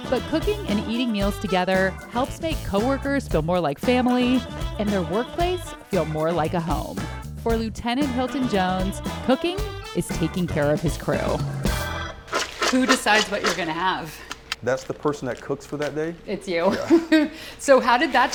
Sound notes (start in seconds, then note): 12.3 vegetables smack